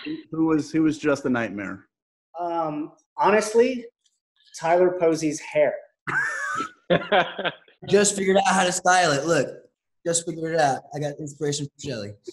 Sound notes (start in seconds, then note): 6.1 laughing